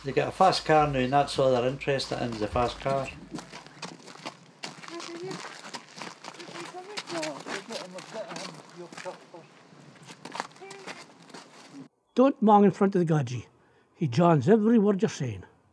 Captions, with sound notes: They get a fast car noo, and that's all they're interested in, is the fast car. (PEOPLE CHATTING)